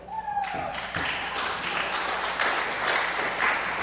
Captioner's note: applause